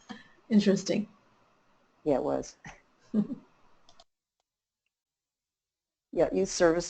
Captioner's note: silence